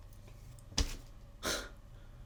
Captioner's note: scoffs